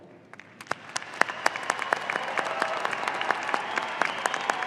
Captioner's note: audience applauding